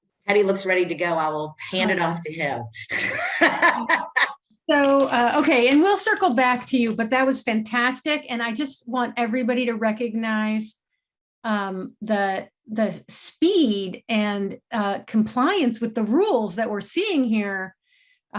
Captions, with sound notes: - Teddy looks ready to go, I will hand it off to him. (laughs) - So, okay, and we'll circle back to you, but that was fantastic. And I just want everybody to recognize the speed and compliance with the rules that we're seeing here.